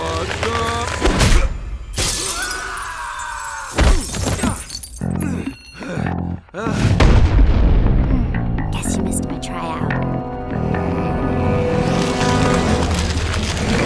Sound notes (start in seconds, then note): 1.0 punch thuds; 1.9 glass shatters; 2.4 Rex screams; 4.0 Rex thuds; 6.9 Monster Girl thuds; 11.0 dramatic music